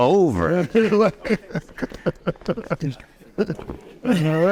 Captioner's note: everyone laughing